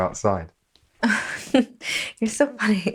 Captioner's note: Sarah laughs